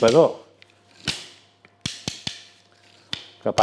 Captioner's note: sticks clapping